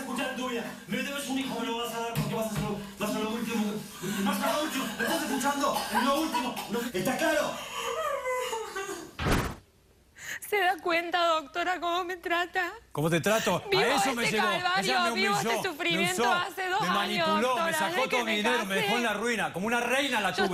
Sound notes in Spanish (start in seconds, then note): 8.9 sollozos